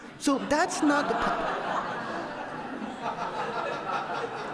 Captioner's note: audience laughs